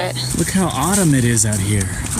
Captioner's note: leaves crunching